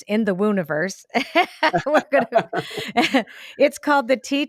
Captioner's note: both laughing